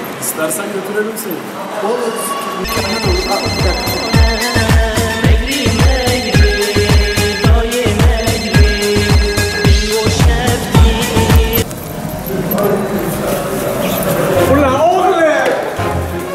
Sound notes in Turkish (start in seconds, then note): 2.1 Kürt telefon zil sesi